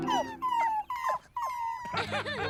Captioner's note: whimpering